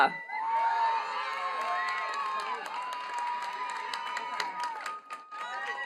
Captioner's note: attendees cheering and clapping